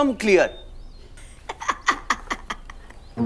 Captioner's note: Zeenia laughs